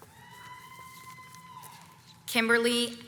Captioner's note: audience cheers